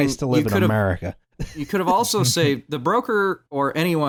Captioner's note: chuckles